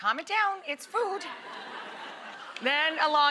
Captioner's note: audience laughs